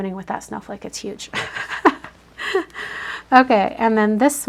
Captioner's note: laughs